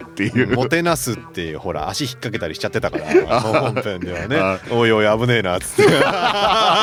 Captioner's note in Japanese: 笑い